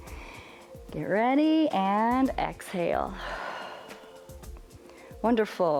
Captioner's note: exhales